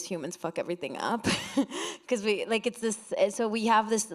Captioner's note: chuckles